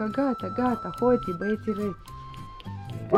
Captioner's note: in Romanian